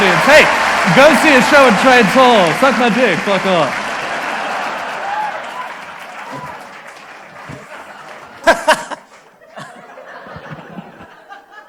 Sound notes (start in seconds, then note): 4.5 audience applause; 8.4 laughs